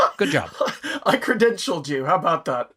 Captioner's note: laugh